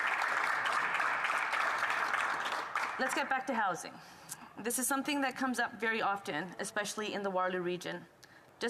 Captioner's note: applause